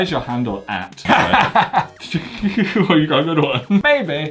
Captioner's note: both laugh